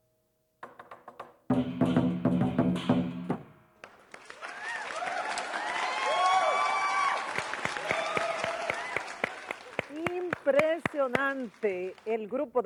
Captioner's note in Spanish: aplausos